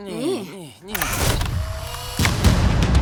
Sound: camera shutter clicks

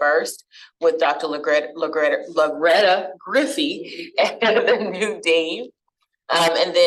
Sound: laughter

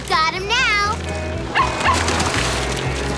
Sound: barking

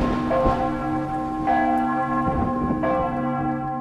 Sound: thunder strikes; church bells ringing

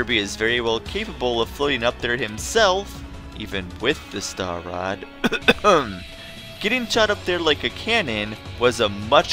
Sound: cough

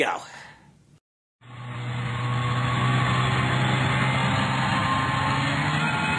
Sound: sound of snowmobile

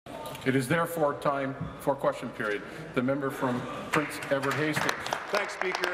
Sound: applause

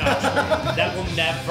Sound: laughs

